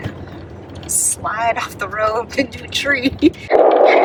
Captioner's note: laughs